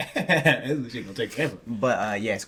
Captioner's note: laughing